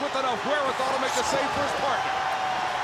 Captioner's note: crowd cheering